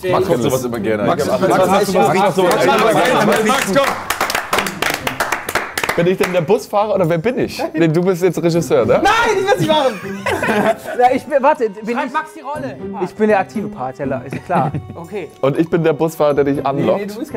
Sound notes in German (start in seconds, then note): 3.9 Applaus